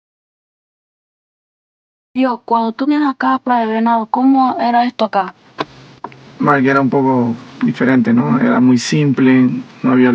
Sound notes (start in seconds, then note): 2.4 speaking Spanish